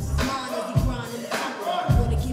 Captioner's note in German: Anfeuernde Rufe